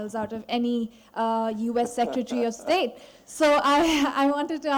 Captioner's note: laughter